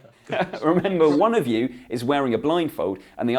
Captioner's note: laughs